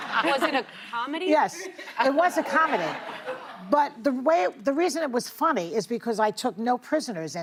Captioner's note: laughter